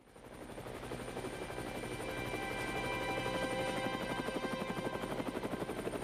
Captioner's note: helicopter blades whirring; tranquil music